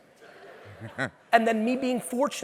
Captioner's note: audience laughing